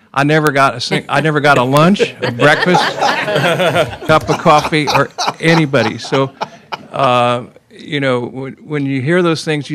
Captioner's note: laughter